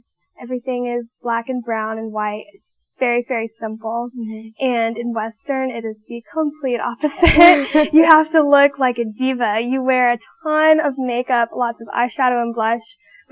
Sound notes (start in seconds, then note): 7.1 laughing